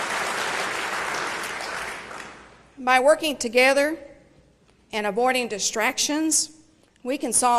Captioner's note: applause